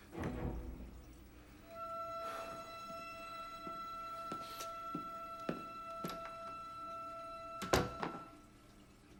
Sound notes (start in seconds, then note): 2.7 Gordon sighs; 6.0 suspenseful music